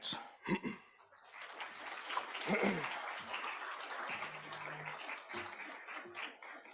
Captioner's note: applause